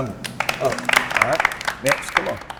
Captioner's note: applause